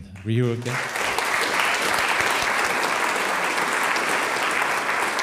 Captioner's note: audience applauds